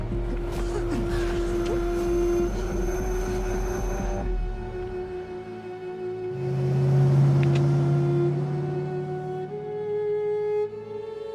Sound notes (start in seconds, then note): 6.3 car engine revving; 8.7 dramatic music